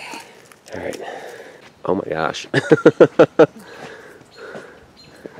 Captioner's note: laughs